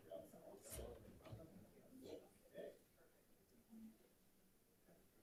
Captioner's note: group chattering